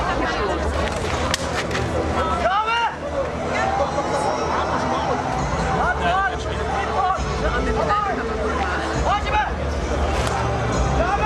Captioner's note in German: Kampfgeräusche